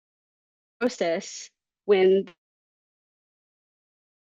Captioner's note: audio cuts out